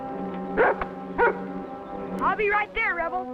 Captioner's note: barking